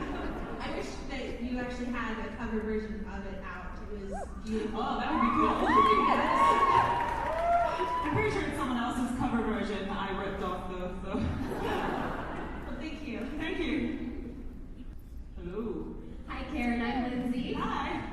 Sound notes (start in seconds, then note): 12.0 laughs